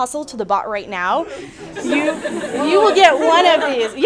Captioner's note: attendees laugh